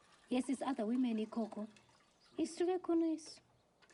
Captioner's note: none